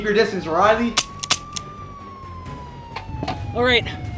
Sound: gun clicking

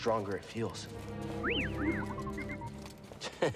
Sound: whistle, beep; chuckle

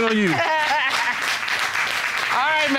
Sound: audience applauding

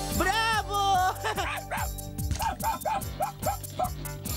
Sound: barking

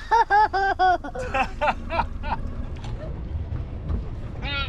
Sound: laughs

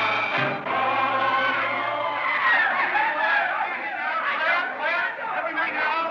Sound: screaming

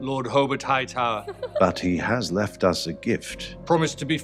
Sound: Alicent and Rhaenyra both laughing

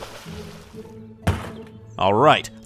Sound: water splashing; footsteps thudding

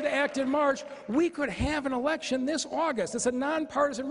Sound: applause

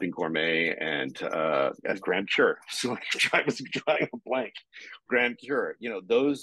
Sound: chuckling

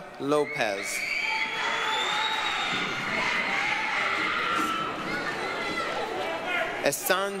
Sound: applause, cheering

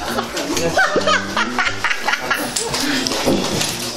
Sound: hahahaha

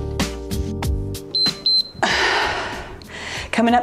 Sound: timer beeps

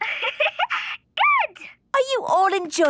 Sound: giggling

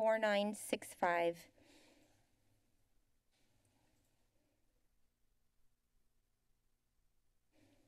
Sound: silence

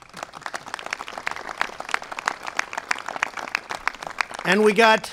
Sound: applause

